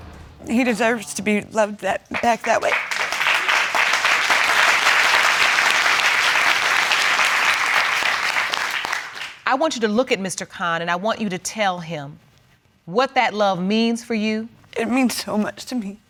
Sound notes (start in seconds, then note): 3.7 audience applauding